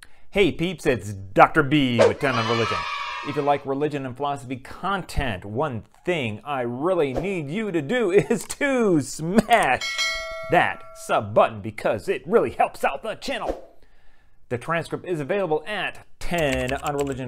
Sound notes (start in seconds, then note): 2.1 kids cheering; 9.8 bell ringing; 16.3 keyboard typing